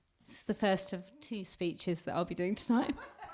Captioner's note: laughter